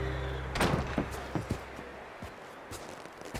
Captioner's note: sound of door suddenly opening